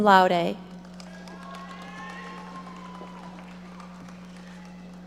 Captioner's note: audience applauding